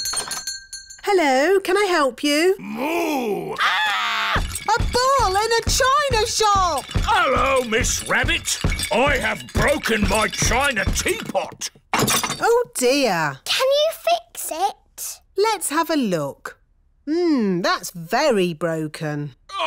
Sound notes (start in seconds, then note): 0.0 shop bell rings; 3.4 screams; 4.3 thumping